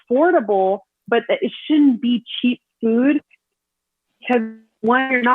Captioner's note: audio distorts